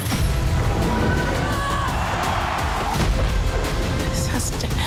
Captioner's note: crowd cheering